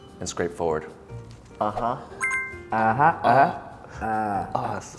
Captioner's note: groaning